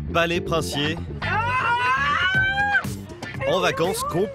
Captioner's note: screaming for joy